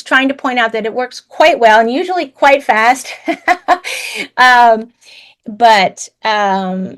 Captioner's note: laughs